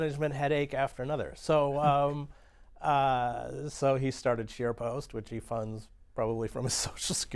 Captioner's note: laughter